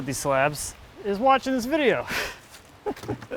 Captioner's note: laughs